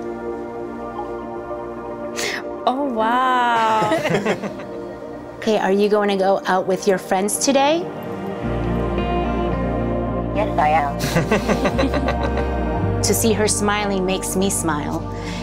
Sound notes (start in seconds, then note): 3.7 laughter; 11.0 laughter